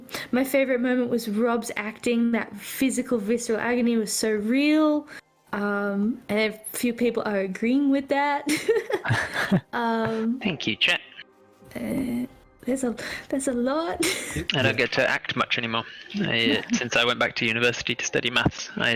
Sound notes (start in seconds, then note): 8.5 giggles